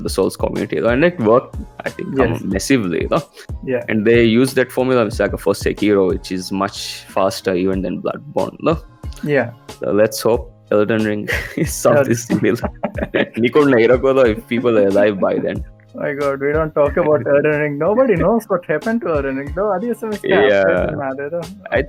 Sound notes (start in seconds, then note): 11.2 laughs